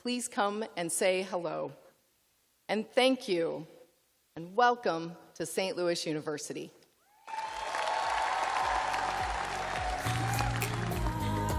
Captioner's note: cheers and applause